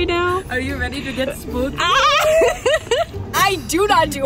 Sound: laughing

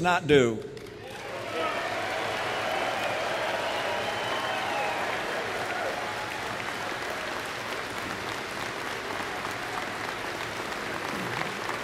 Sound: applause

